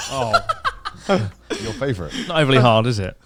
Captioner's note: laughs